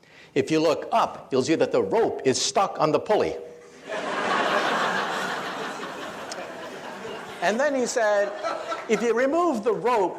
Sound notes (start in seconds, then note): 3.8 audience laughs